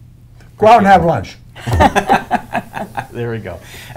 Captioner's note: chuckling